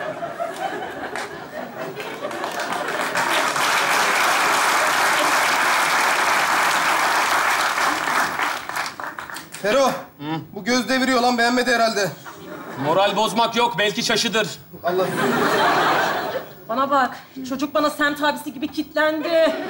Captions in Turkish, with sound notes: (Alkış sesleri) -Fero! -Ne? -Bu göz deviriyor lan. Beğenmedi herhalde. -Moral bozmak yok. Belki şaşıdır. -Bana bak. Çocuk bana semt abisi gibi kitlendi.